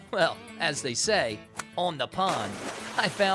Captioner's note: water splashes